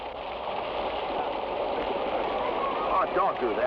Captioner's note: water splashes